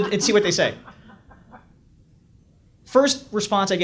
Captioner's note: audience laughs